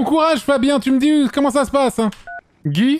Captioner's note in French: bip de fin d'appel